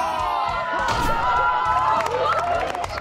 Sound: everyone's cheering

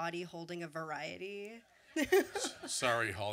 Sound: laughs

